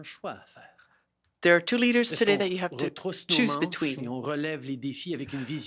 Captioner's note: speaking French